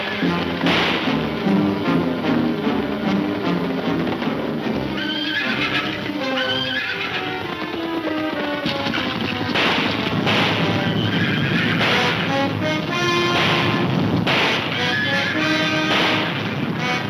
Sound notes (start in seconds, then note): 3.8 horses neighing; 8.6 gunfire pops